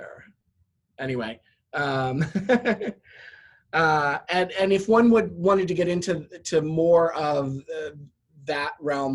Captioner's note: laugh